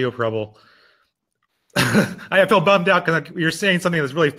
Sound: laughing

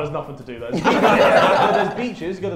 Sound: Sidemen laugh

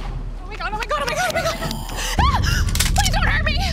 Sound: cloaking crackling; screams; guns cock

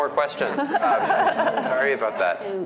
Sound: laughter

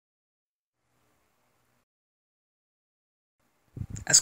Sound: silence; even more silence

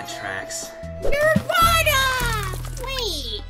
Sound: splashing

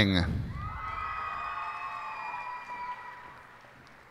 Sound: cheers and applause

